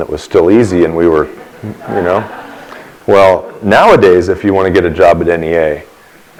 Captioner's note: laughter